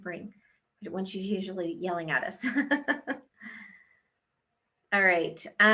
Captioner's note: laughs